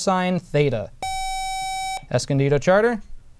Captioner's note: buzzer